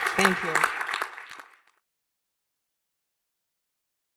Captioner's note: applause